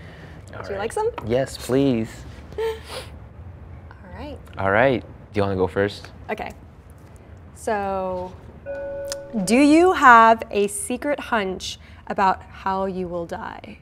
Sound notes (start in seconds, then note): 1.9 laughs; 8.6 bell chimes